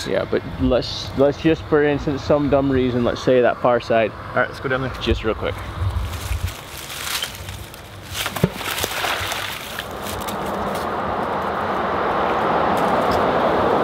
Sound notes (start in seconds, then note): 8.4 water splashing